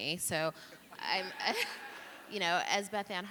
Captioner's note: audience laughing